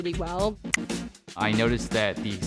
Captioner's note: click